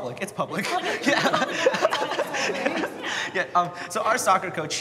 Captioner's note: everyone laughing